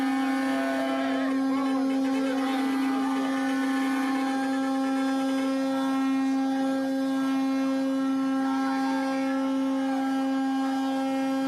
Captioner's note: horn honking noises